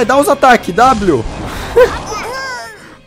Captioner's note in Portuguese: risos